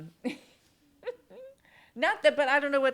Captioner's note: chuckles